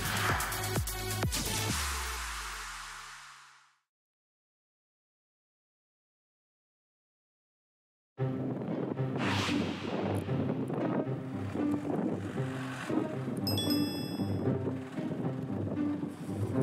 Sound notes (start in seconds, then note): 8.3 huge wind sounds